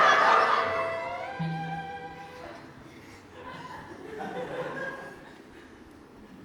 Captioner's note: audience laughs; audience laughs